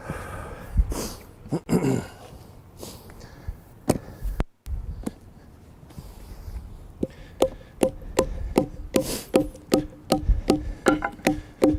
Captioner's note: pounding